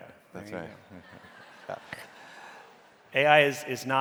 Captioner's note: audience laughing